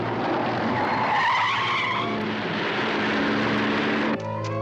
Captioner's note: tires screeching